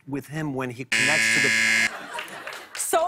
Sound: buzzer

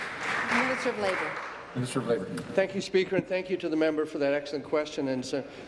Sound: applause

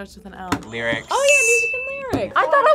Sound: buzzer rings

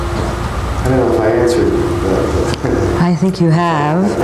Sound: laughs

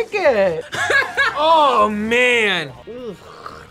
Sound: laughs

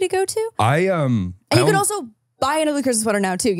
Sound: laughs

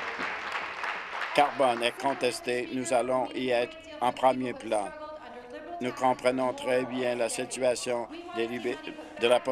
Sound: applause

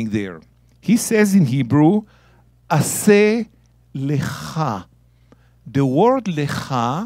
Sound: speaking in Hebrew

